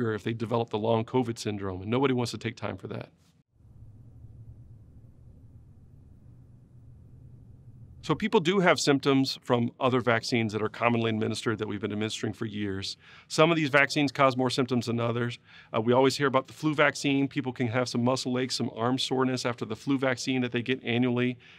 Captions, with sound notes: if they develop the long Covid syndrome and nobody wants to take time for that. [silence] So people do have symptoms from other vaccines that are commonly administered that we've been administering for years. Some of these vaccines cause more symptoms than others. We always hear about the flu vaccine. People can have some muscle aches, some arm soreness after the flu vaccine that they get annually.